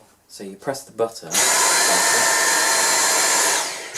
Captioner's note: noise of vacuum on